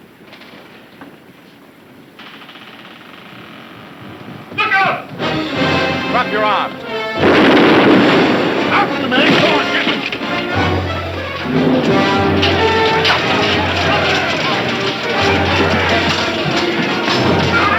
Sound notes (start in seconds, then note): 5.1 dramatic music; 6.9 gun firing; 12.1 men shouting; 12.1 swords clanging